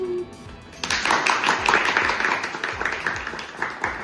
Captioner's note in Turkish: alkış